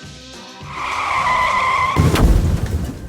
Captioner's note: squealing tires; explosion